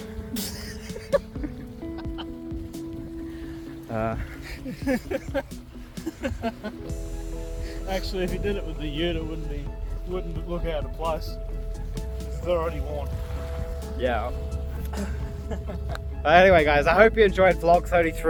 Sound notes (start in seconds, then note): 3.0 laughing